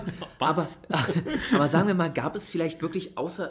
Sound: laughs

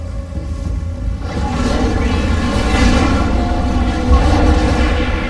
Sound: growling

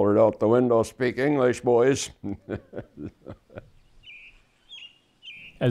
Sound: laughing

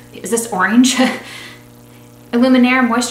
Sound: laughs

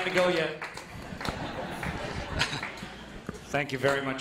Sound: laughter

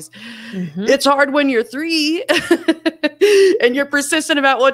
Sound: laughs

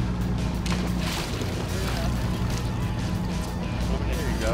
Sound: fish splashing water

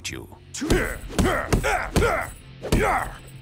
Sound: grunting

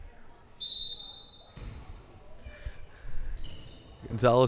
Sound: whistle blowing

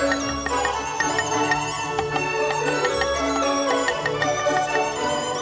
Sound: joyful music; knife chopping

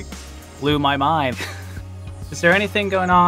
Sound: laugh

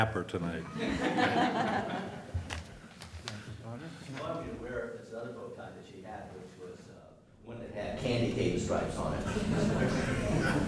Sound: laughter

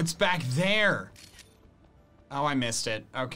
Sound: photo snapping

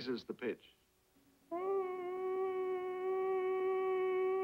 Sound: high pitched humming

